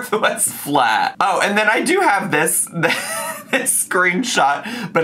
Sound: laughs

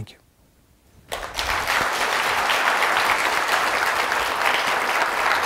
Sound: audience applauds

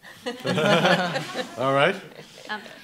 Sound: laughing

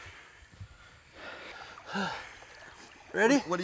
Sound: grunting

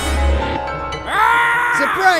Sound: kidnapper screams

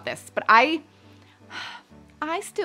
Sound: breathes deeply

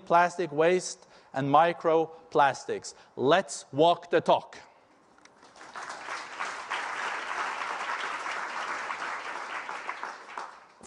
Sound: applause

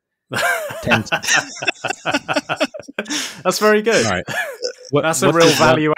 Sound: both laughing

